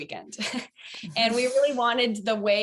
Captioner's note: chuckling